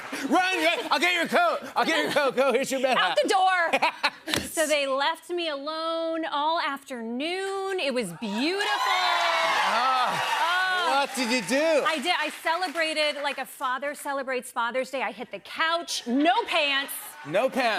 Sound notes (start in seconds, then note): 8.5 cheers and applause